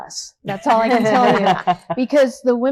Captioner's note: all laughing